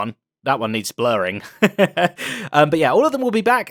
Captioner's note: laughs